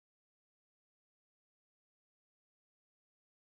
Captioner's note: none